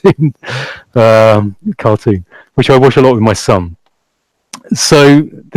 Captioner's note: laughs loudly